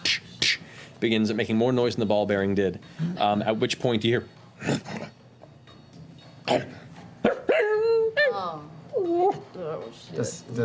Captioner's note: growls and howl